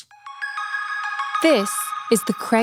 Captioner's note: high pitched bells